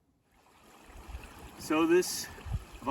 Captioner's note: water trickling